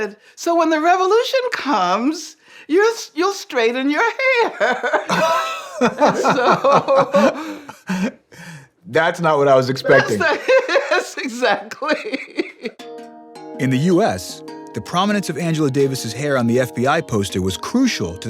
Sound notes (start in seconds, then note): 4.1 both laughing; 9.8 laughing